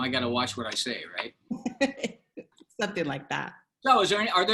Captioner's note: laughter